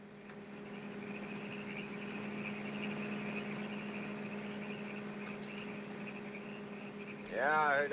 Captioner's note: car engine hums; frogs chirp